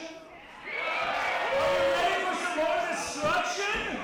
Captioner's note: crowd cheering